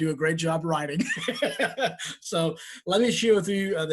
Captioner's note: laughing